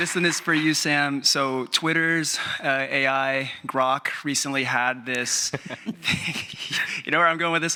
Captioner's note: chuckles